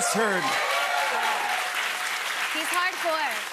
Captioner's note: cheers and applause